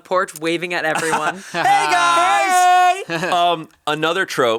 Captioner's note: laughs